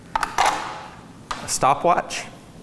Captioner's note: calipers clang